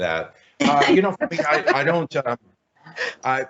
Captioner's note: laughing